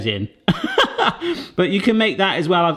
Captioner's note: laughter